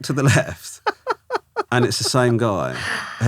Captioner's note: laughing